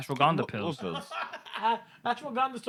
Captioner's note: laughing